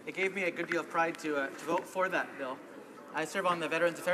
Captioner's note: speaking in french